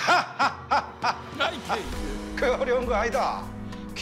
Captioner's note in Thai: ฮ่าฮ่าฮ่าฮ่าฮ่า